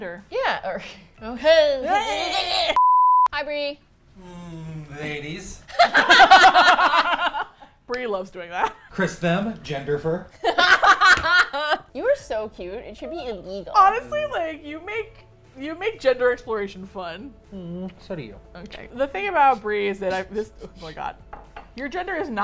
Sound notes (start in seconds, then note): 1.2 laughs; 5.7 laugh; 10.6 laugh